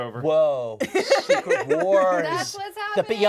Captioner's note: laughs